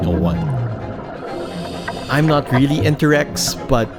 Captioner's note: air hisses